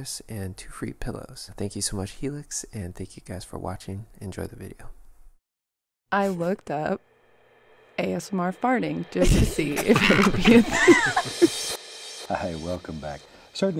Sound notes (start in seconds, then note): 9.7 group laughing; 11.2 slow music